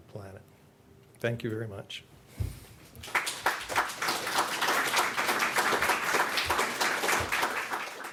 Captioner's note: applause